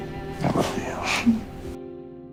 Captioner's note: June laughs